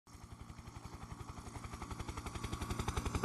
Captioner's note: helicopter in flight